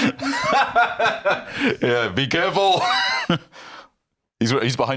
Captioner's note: laughs